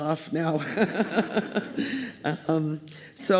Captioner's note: laughter